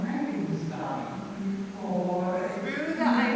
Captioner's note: Stephanie's Parts recite lines in the background